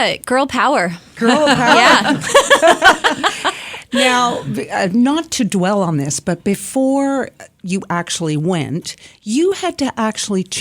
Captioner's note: laughs